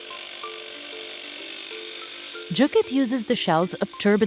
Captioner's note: machine whirring